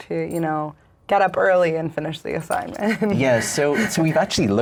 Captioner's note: laughs